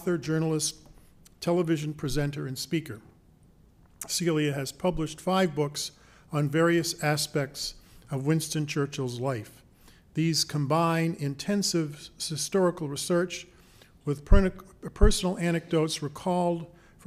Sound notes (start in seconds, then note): none